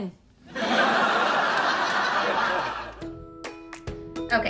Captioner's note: laughter